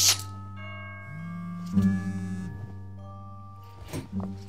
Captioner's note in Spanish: teléfono vibra